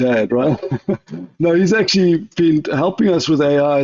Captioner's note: laughs